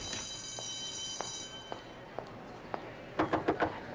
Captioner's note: bell rings